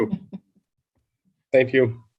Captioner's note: laughing